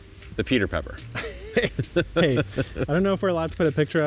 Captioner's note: laughs